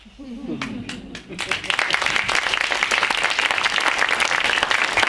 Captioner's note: audience applauding